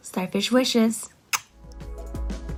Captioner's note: blows kiss; calm music